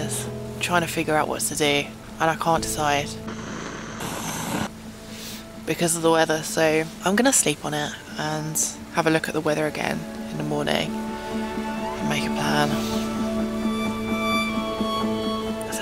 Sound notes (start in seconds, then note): 3.2 stove roars